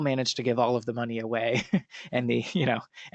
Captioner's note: laughs